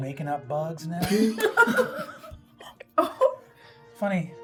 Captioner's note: everyone laughing